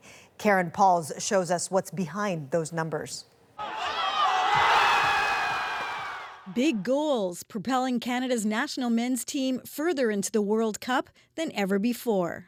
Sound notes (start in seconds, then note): 3.8 applause